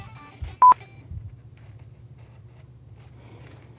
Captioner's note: beeper beeps